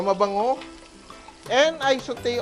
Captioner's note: sizzle